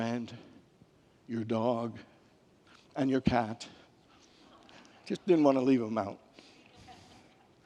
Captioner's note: congregants laugh